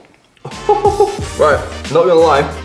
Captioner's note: laughing